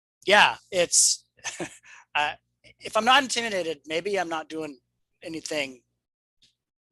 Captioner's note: chuckles